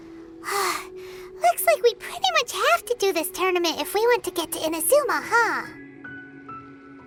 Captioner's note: sigh